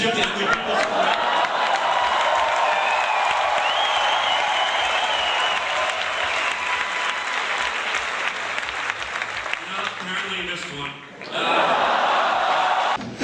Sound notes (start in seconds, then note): 1.6 audience cheering and clapping; 11.2 audience oohs, segueing into laughter